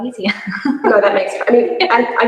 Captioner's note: laughs